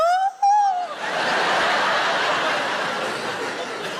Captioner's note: audience laughs